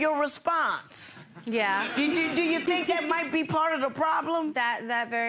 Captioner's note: chuckles